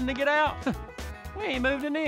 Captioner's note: laughs